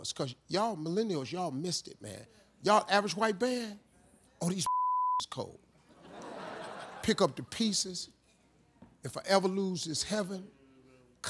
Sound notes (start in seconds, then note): 4.6 beep